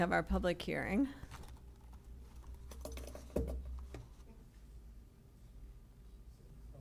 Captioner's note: shuffling